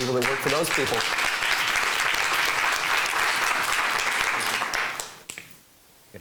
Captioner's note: clapping